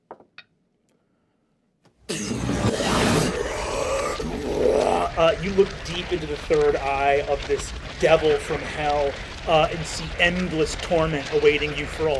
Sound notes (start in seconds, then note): 0.2 die rolls; 2.1 sound of magical blasts; 4.4 growls; 5.6 normal voice